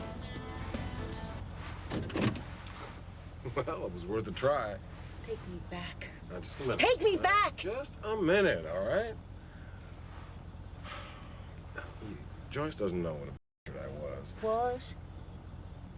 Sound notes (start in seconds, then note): 1.8 gear shifts; 10.8 sighs